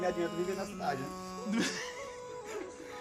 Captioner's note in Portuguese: risada